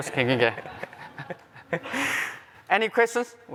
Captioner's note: laughter